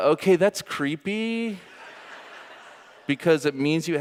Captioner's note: audience laughing